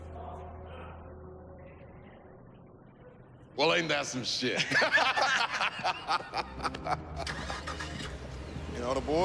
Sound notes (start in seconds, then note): 4.6 laughs